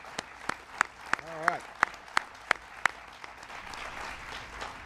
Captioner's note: applause